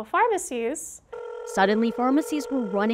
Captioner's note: dial tone